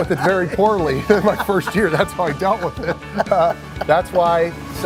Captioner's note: laughing